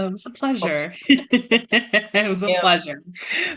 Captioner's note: laughing